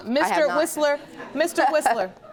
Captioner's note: chuckles